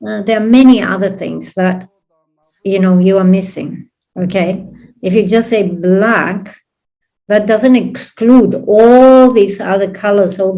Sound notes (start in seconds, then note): none